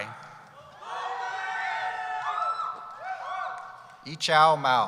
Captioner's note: cheering